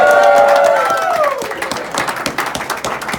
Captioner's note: cheers